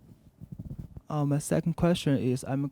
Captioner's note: voiceover